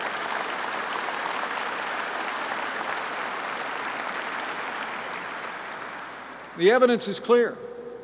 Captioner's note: applause